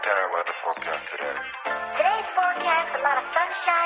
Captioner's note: voiceover